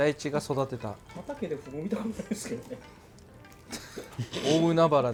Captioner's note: laugh